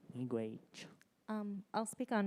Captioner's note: speaks in Ojibwemowin